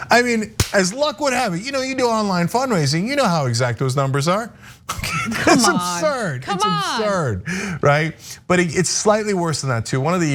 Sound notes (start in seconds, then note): 5.1 laugh